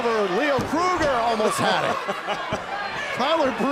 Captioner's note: crowd cheering